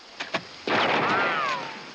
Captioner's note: firing